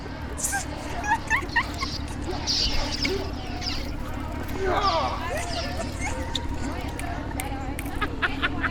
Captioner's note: Kaber Sabers Wooshing